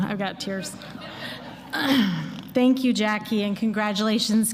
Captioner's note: laughter